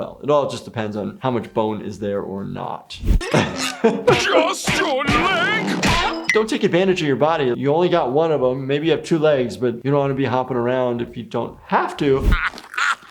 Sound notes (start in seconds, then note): 2.6 leg slamming sounds; 3.2 laughs; 12.3 Squidward chocking; 12.3 Squidward laughs